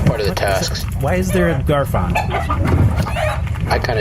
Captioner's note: Garfon clucks